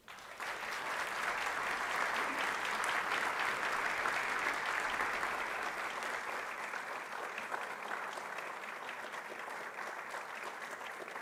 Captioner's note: applause